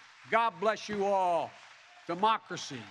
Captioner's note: applause